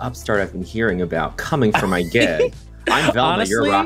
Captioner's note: chuckles